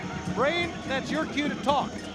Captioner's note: crowd chatter